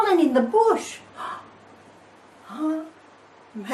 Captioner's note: gasp